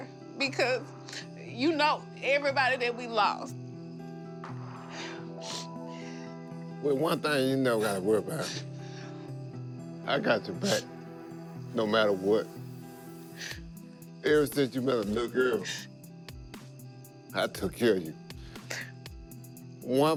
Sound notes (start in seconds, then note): 5.4 crying